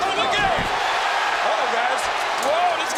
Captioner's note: audience cheers